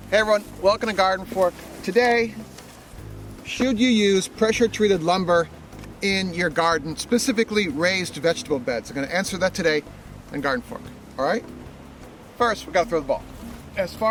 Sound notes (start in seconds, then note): none